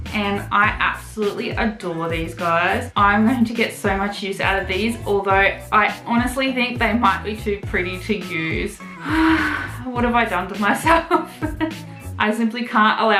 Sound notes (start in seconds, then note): 8.8 dramatic sigh; 12.1 awkward laughter